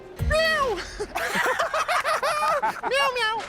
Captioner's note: laughter